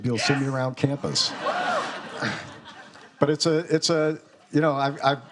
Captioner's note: students laughing